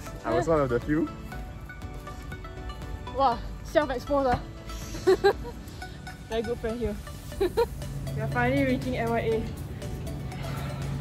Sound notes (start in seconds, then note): 5.0 laughs